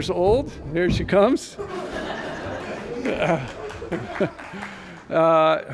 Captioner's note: laughter